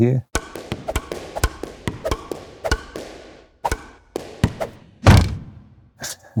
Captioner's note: racket pounding; air whirring; Stripes thuds